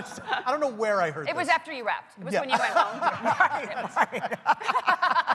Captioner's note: laughter